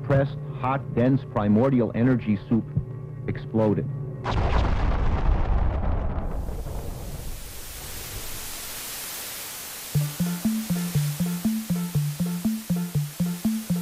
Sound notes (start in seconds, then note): 4.2 explosion; 9.6 static Noise; 10.0 mysterious Music